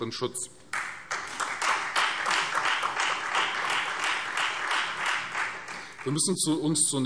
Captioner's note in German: Beifall Freie Demokraten und vereinzelt SPD